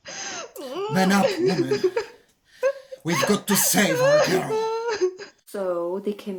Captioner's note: weeping; weeping